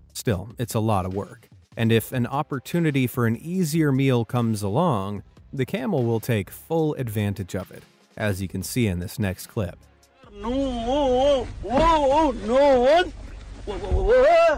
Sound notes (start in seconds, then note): 11.7 shouting